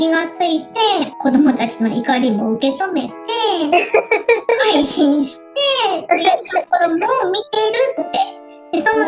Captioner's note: laughs